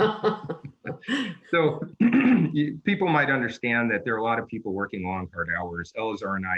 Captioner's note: laughter